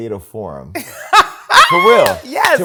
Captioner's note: laughs